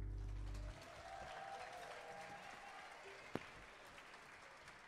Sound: audience applauding

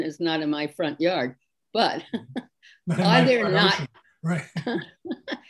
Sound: laughs

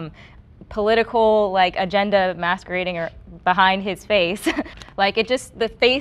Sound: chuckles

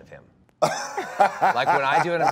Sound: Dwayne laughs

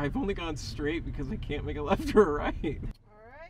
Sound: laughing

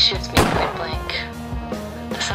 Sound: gunshot

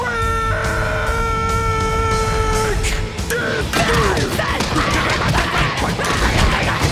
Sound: Patrick and Spongebob grunting

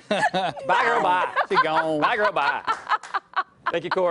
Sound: laughing

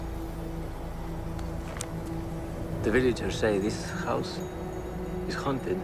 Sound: none

